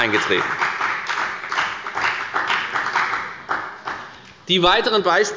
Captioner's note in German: Beifall bei der FDP